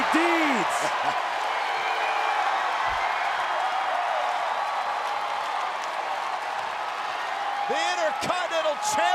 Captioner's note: applause